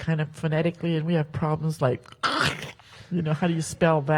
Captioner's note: speaks Halkomelem